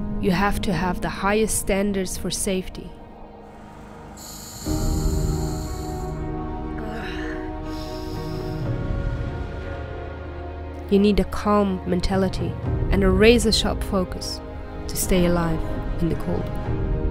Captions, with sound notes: you have to have the highest standards for safety [Breathes into mask] [Shivers and sighs] you need to calm mentality and a razor-sharp focus to stay alive in the cold